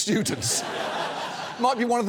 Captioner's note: studio audience laughs